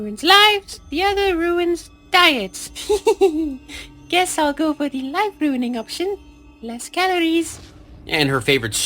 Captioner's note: giggles